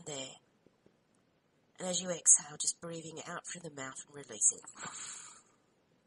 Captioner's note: audible exhalation